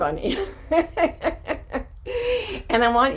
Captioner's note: laughing